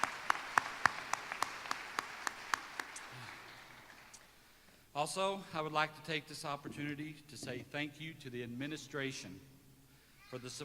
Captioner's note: applause